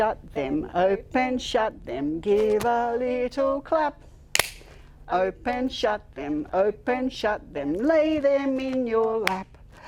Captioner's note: clap